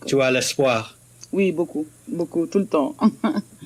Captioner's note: answers in French